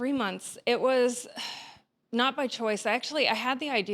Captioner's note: sighs